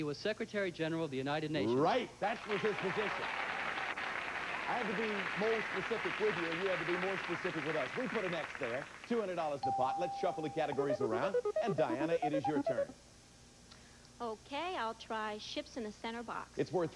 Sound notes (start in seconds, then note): 2.4 audience applauding